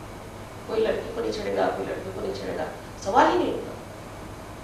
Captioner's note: hindi